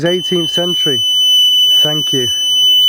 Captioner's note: beeping